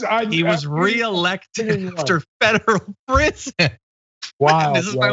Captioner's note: laugh